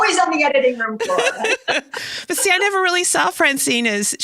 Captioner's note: laughs heartily